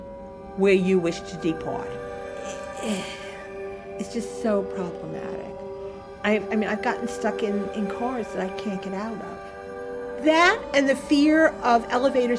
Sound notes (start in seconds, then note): 2.3 sighs